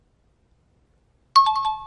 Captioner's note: time chime